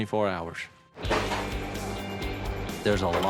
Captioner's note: forklift clanking